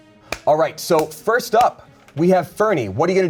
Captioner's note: hands clap